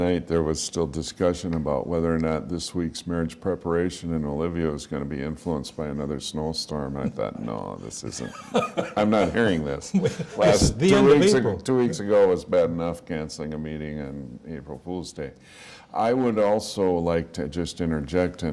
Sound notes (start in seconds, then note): 7.0 laughter